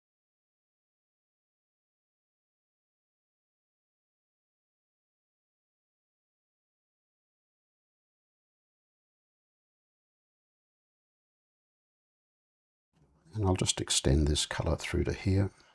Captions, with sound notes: [silence] And I'll just extend this color through to here.